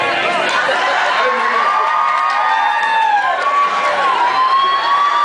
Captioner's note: screams, cheers